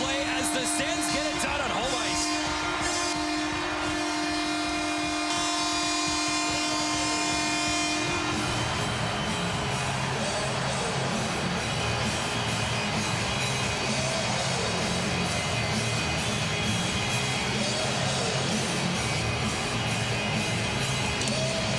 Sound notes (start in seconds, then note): 9.6 cheering and Applause